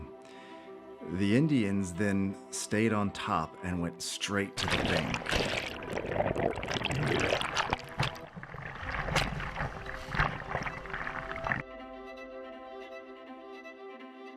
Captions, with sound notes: the Indians then stayed on top and went straight to the bank. (water splashing) (gentle dramatic music continues)